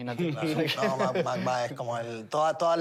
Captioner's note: laughter